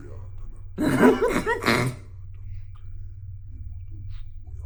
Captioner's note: Chuck laughing